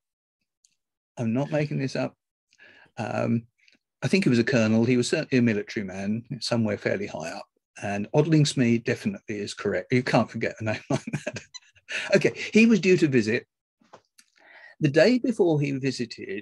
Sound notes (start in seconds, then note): 10.9 laughs